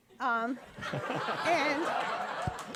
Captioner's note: audience laughing